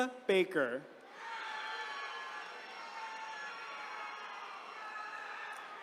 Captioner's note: attendees cheering